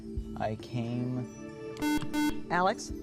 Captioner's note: buzzer